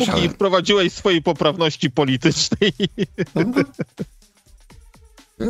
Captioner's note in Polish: śmiech